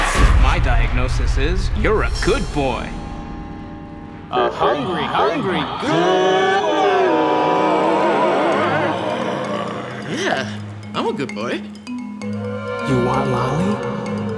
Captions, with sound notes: - My diagnosis is, you're a good boy. (many voices) A hungry, hungry gooood boy! - Yeah, I'm a good boy. - You want lolly?